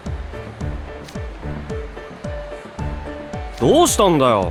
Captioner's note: crowd talking